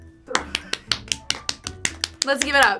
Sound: claps

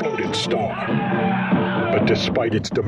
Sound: man screams

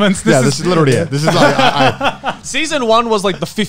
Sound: everyone laughs

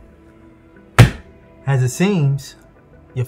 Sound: hand slamming

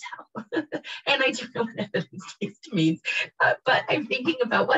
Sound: laughs

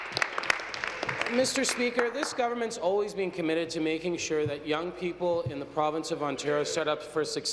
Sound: applause

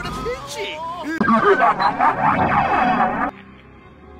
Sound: laughs

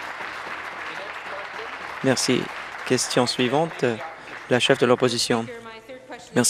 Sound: applause

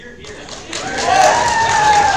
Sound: crowd cheers

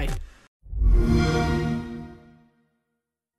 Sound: Xbox One Startup Sound

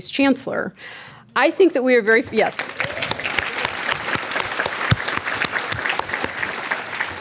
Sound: audience clapping

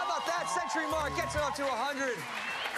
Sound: cheers and applause

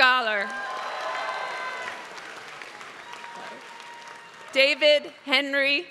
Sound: applause

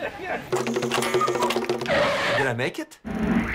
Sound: bell dinging

